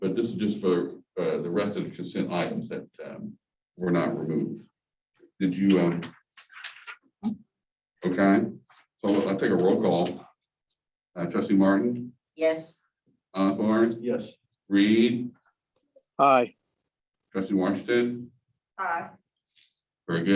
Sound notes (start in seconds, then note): none